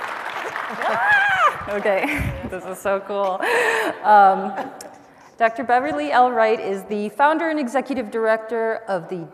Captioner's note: applause